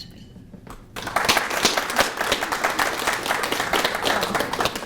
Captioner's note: applause